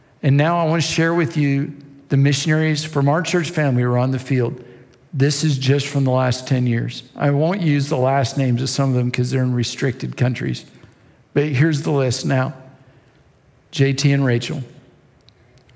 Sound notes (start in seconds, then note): none